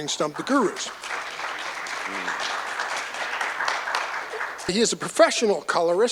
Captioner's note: applause